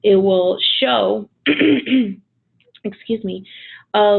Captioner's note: coughs